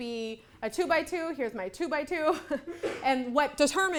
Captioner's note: laughs